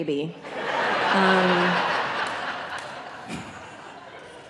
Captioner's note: audience laughing